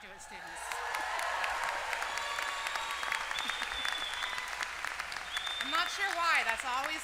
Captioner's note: applause